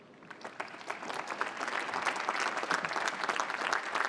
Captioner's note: applause